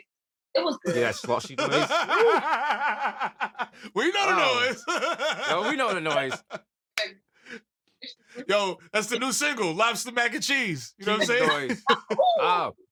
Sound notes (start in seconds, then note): 2.5 laughter